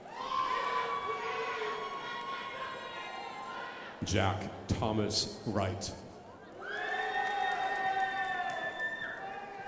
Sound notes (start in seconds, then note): 0.3 crowd applauding; 6.6 crowd applauding